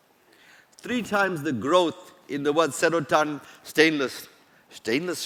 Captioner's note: non-english